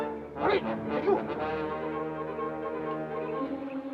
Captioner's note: soldier speaks Japanese; suspenseful music